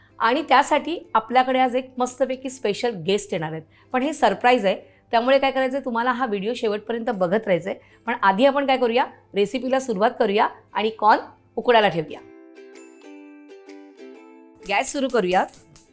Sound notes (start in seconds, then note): none